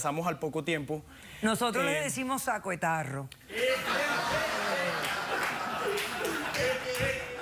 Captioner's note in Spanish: risas de los presentes